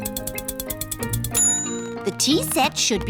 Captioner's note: bell dings